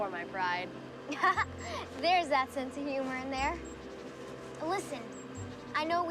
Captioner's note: laughing